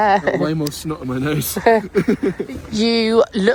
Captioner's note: both laugh